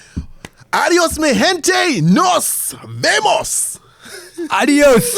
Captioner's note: speaking in foreign language